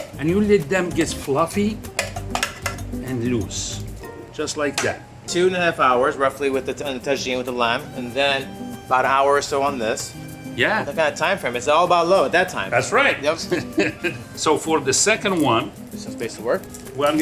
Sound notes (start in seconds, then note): 13.3 chuckles